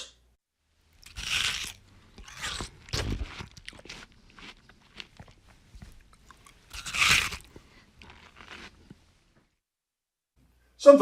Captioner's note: eating sounds